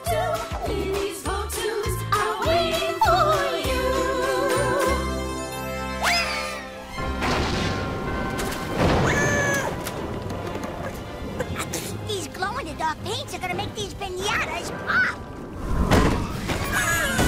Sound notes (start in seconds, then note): 7.0 thunder; 9.0 screams